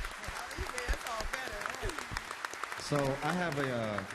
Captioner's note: applause